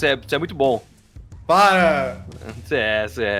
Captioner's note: with a silly voice